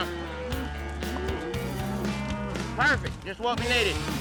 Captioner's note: mooing